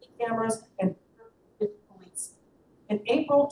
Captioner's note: audio cuts out